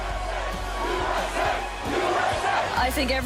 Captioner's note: crowd